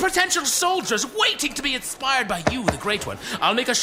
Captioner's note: sounds of Pleck being patted encouragingly